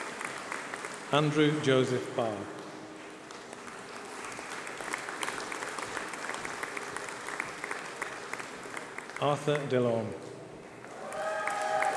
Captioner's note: applause